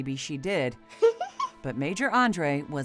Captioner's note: woman giggles